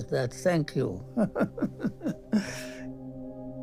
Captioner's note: laughs